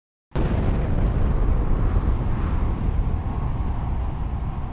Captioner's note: bomb exploding